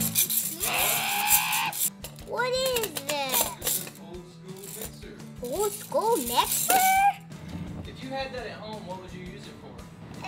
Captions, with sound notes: (boy screams) What is this? It's an old school mixer. Old school mixer? If you had that at home, what would you use it for?